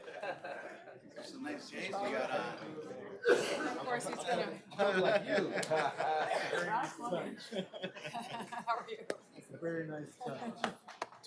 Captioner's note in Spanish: aplausos